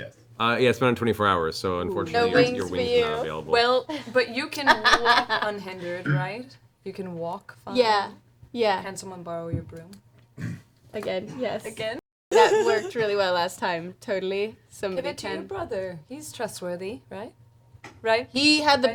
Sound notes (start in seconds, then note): 12.3 laughs